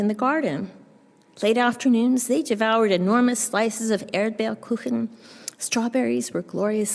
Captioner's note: german